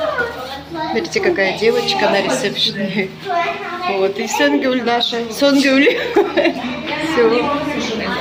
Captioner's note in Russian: смех